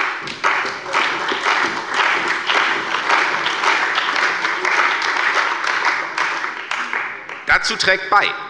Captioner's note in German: Beifall bei der CDU und dem BÜNDNIS 90/DIE GRÜNEN